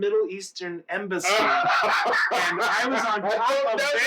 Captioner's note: laughs